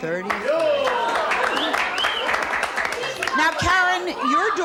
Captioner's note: audience applauds